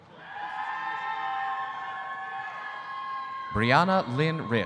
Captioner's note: audience cheering